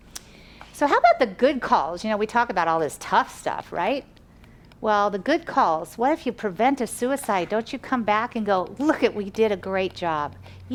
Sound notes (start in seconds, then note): none